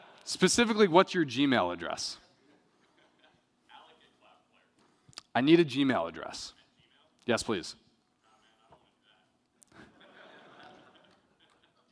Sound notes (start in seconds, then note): 0.0 laughter; 2.5 chuckling; 9.7 laughter